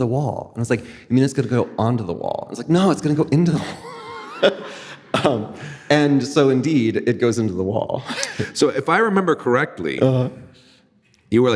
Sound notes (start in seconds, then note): 3.6 laughing